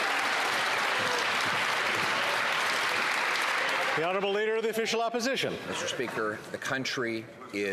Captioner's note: some Applause